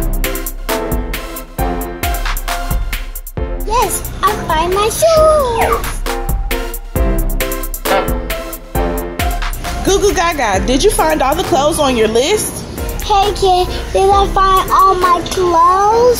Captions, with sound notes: - Yes, I find my shorts. (slide whistling) (silly horn honking) - Goo Goo Gaga, did you find all the clothes on your list? - Hey Kid, did I find all my clothes?